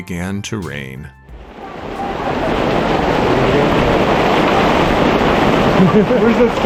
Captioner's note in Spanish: Tormenta de lluvia fuerte